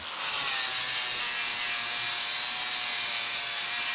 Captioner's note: metal grinding